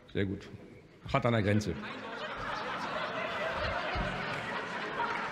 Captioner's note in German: Heiterkeit bei der SPD sowie bei Abgeordneten des BÜNDNISSES 90/DIE GRÜNEN